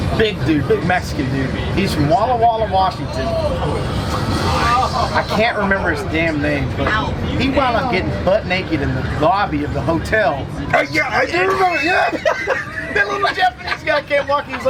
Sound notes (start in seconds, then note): 11.8 laughing